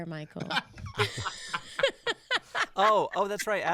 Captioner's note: both laughing